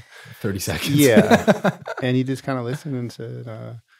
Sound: laughs

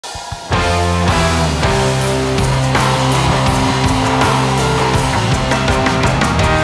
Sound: audience cheers; upbeat rock music

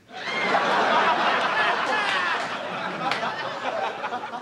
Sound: audience laughs

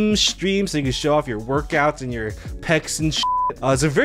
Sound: beep

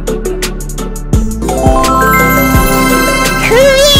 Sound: magic sound

